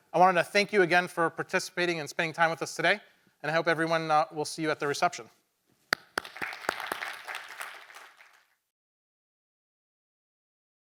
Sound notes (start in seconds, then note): 5.9 claps; 5.9 attendees clapping